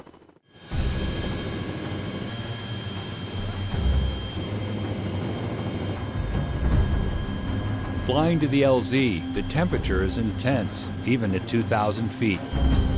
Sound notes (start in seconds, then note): 0.0 helicopter engine; 8.3 voiceover